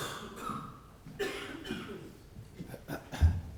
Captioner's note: cough